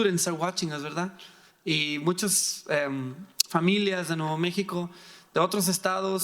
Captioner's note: speaking in foreign language